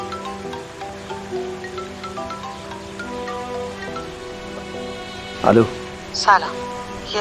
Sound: mobile ringing

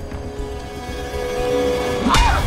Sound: screams

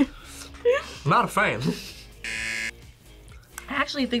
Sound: buzzer

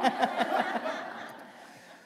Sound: laughter

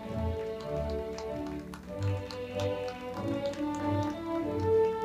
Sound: audience clapping

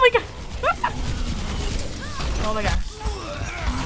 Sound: chortles; in game: pained groans

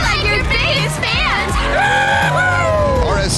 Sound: cheering

